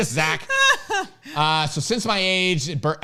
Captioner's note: laughs